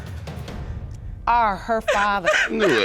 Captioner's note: sobbing